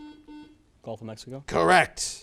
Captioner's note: buzzer